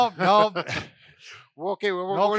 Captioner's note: laughs